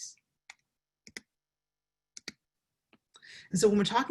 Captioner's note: mouse clicking